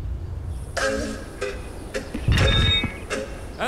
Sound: stuttering

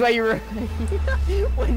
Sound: giggle

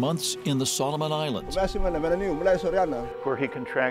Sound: solomon Islander speaking

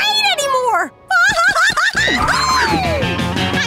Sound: celebrating

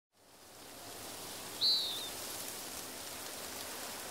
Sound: leaves fluttering

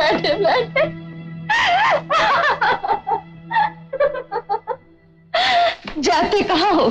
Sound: laughs

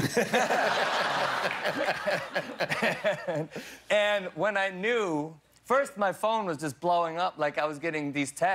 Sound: laughter

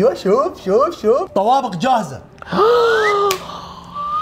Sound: gasps; whistles

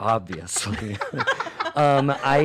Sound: laugh

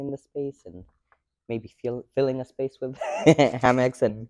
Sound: laughs

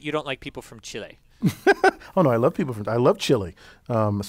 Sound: laugh

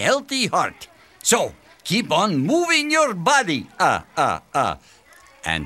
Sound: laughs

